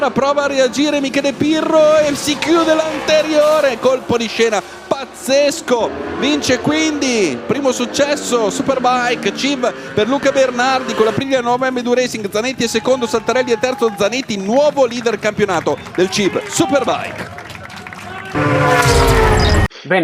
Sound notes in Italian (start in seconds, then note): 17.7 Applauso